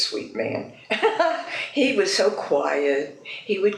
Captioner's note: laughs